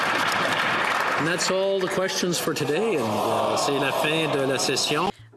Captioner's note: some Applause